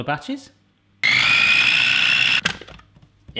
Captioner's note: machine whirring